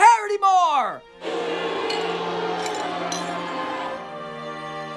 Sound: crowd boos

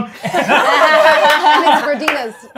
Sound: gamers laughing

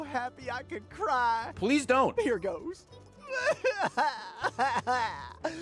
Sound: cries

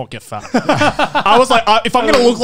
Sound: laughs

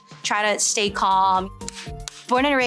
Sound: clap

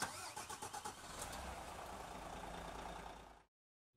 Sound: car engine starting

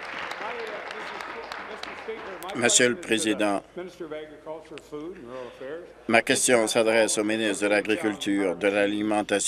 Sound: applause

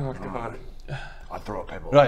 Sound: sigh

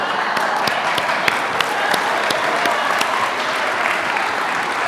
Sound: audience laughing; audience applauding

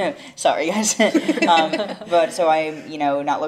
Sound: laughs

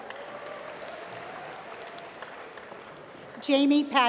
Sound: applause

